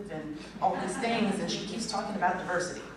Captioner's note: laughter